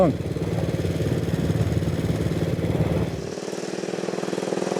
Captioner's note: engine rattling